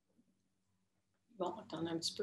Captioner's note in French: silence